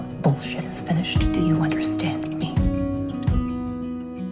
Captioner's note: voiceover